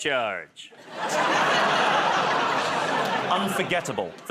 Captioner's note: laughter, groaning